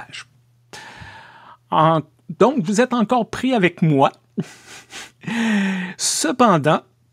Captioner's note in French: rires